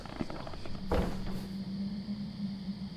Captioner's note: strange bang sound